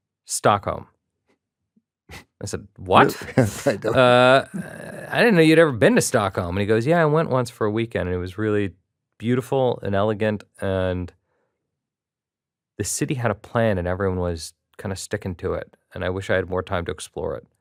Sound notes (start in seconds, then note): 2.9 chuckles